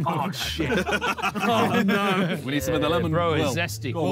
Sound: all laughing

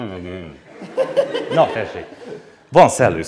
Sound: laughter

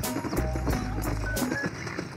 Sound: cries of birds; horse slowing down

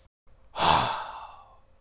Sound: sigh

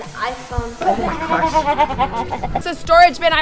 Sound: laughing

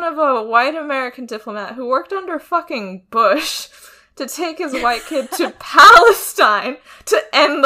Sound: both laugh

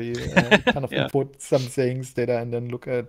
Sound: laughs

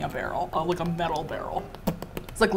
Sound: smacks lips

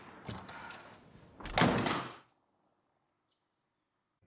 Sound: door bangs

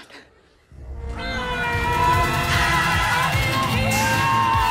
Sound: shouts

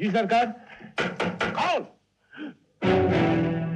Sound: knock On Door

